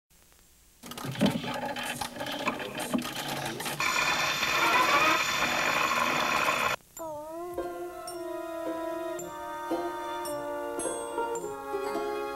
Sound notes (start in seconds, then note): 0.1 record whirring; 5.1 needle scratching